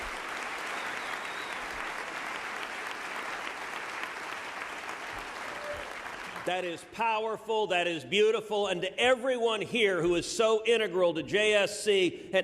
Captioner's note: applause